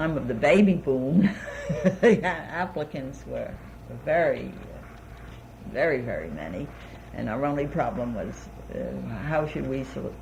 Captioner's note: laughs